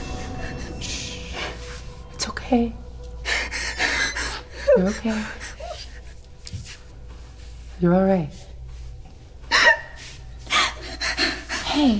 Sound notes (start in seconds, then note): 3.3 lady continues gasping and whimpering; 9.4 lady crying